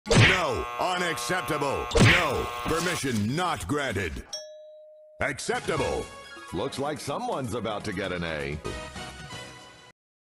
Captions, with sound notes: No! Unacceptable! No! Permission Not Granted! (Ding) Acceptable! Looks Like Someone's About To Get An A.